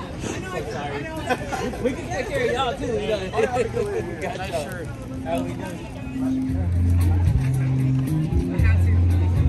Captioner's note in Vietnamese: Tiếng cười